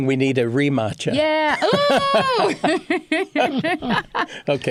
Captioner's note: laughs